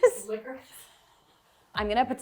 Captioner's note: wheezing